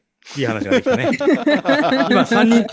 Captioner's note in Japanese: 笑い; 鼻息